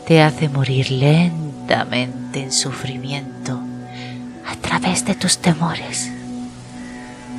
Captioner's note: humming